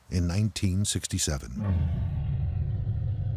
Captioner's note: growling